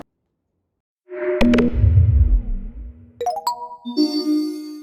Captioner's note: Animated ISB logo and swoosh